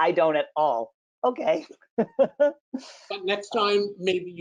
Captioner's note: laughs